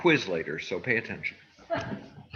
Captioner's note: laughs